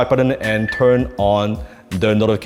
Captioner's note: bell dings